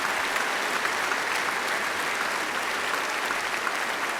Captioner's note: applause